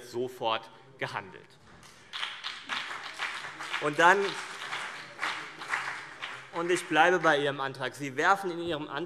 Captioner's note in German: Beifall CDU und BÜNDNIS 90/DIE GRÜNEN